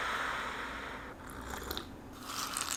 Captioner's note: air blowing; slurping; peanuts rattling